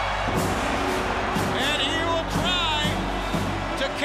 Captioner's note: crowd cheering